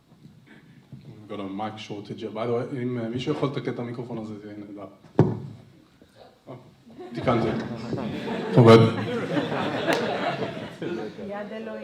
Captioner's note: speaks Hebrew to organizers